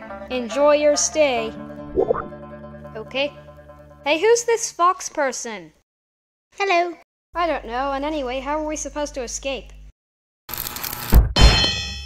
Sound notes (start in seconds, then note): 10.5 cutting noise